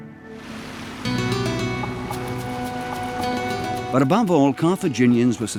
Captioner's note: waves lapping; gently stirring music